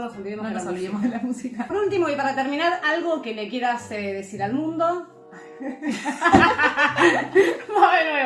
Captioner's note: laughs